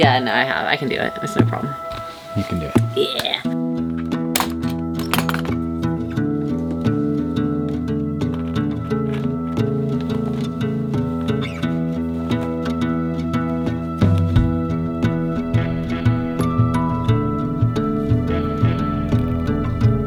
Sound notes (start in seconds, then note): 4.3 high-five clapping, case being unlatched